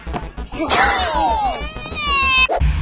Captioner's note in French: Gamin qui pleure